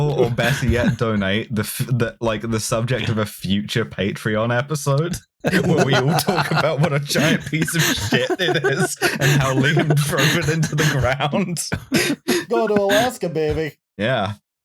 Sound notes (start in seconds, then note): 5.5 laughter; 5.9 laughing; 8.7 laughter; 11.9 laughter